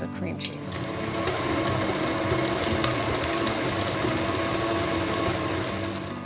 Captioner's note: stand mixer whirring; light acoustic folk music